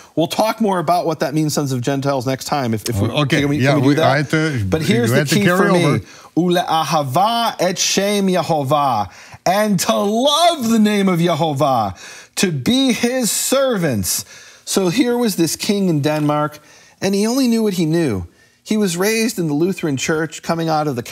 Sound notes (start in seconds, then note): 6.7 speaking in foreign language